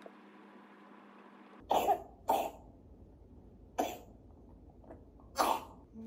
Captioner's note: please go away, cold / Cough x2